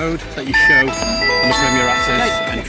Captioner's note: machine chimes